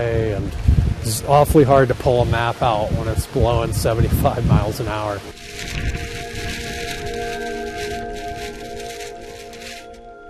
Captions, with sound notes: And it's awfully hard to pull a map out when it's blowing 75 miles an hour. [wind blowing]